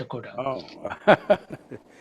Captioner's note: laughs